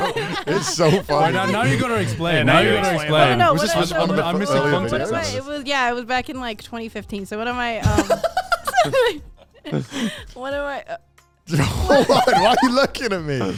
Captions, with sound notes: - So it's like their choice if they would like to go down if they want to. - Yeah, yes. Yes, exactly. - Right, yeah, that's pretty smart to do. - Yeah. - It sounded like you're describing a different experience. (men laugh)